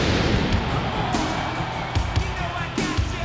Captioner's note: audience cheers